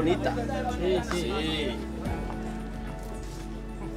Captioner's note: speaking Spanish; slow music